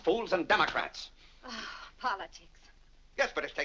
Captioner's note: Vinnie sighs